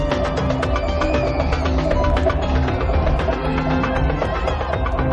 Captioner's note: screaming